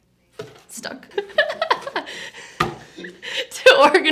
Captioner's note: laughs